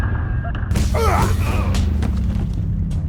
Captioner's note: punching, grunting